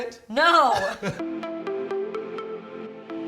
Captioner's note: laughing; mood music